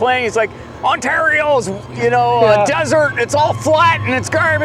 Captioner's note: imitating angry voice